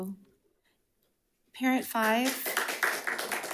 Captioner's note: audience clapping